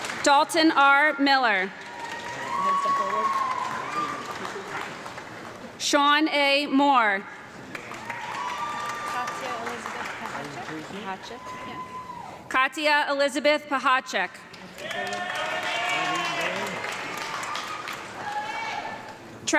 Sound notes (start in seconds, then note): 0.0 audience clapping and cheering; 1.7 audience clapping; 7.4 audience clapping and cheering; 14.4 audience clapping and cheering